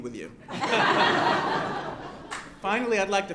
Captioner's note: applause